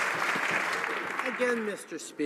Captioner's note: some Applause